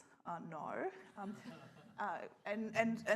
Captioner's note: scattered laughter